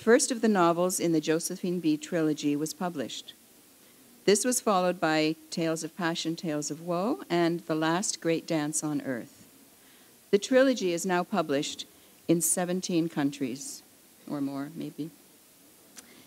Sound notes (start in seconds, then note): none